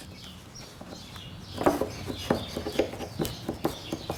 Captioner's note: birds chirping